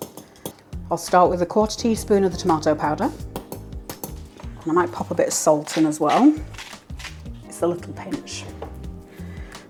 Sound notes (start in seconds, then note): 5.4 salt mill grinding